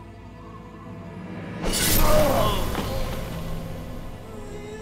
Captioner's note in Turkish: Kılıç sesi; Müzik - Duygusal